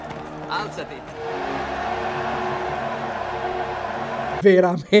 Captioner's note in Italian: In sottofondo, la folla sugli spalti esulta